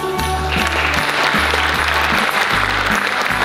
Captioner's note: applause